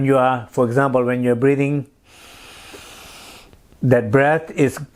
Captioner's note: breathes in